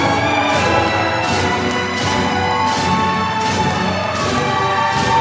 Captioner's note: applause